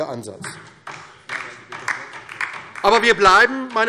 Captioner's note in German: Beifall DIE LINKE